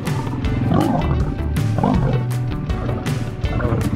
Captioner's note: lion roaring